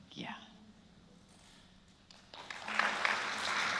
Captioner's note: applause